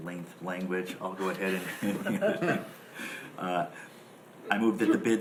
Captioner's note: laughing